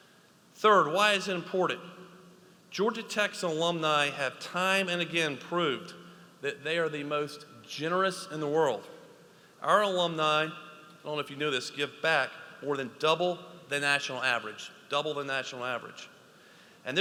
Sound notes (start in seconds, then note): none